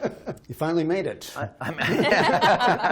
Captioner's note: laughter